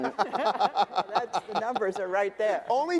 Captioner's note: debaters laughing